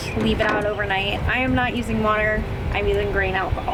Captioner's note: phone thuds